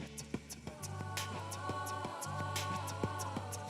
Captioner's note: none